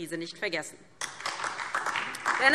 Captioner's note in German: Beifall DIE LINKE und vereinzelt SPD